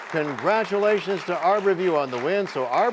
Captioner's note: applause